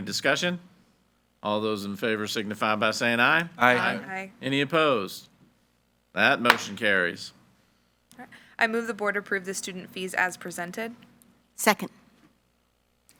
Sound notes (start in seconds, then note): 6.5 gavel bangs